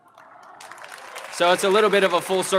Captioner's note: audience exclaims; audience applauding